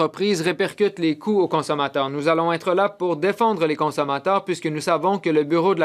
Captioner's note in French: voix de l'interprète